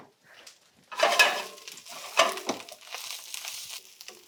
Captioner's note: pan clanging and sizzling